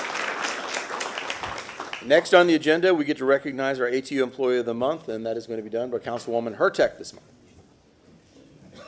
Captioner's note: applause